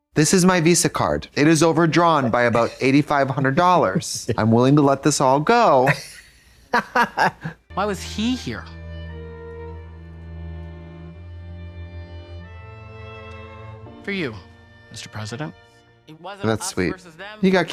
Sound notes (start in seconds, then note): 5.8 Katya tee-hees; 9.5 violin music